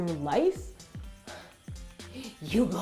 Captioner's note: gasps